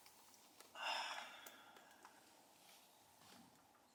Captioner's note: sighs